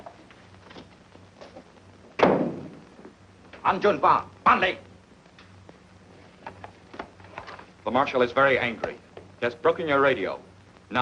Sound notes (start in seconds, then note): 3.5 speaks foreign language